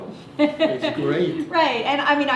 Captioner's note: laughter